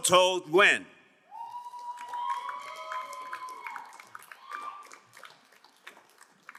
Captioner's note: crowd cheering and applauding